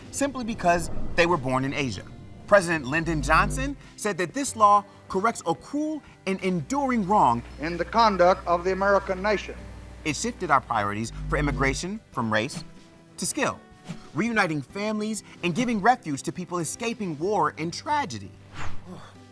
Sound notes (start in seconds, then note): 0.3 Earth whooshes; 2.0 graphic hums; 10.7 text whooshing; 10.7 graphic hums